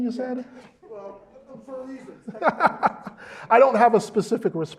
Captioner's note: laugh